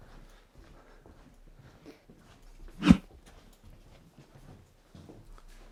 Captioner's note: footsteps shuffling